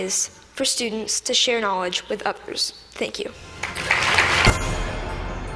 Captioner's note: Applause; 掌聲